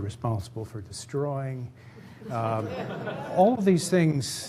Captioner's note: laughter